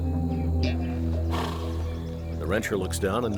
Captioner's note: horse nickers